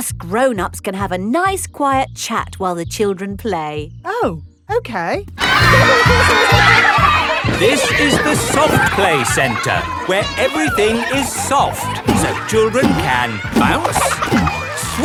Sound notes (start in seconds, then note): 8.1 loudly over shouting